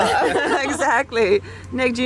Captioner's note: all laughing